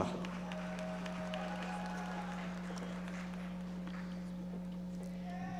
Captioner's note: audience members applauding